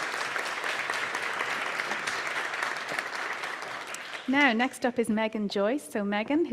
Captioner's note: applause